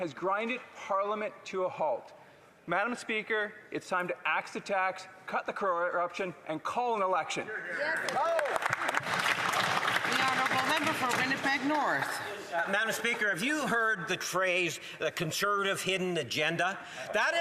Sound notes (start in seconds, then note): 12.1 some Applause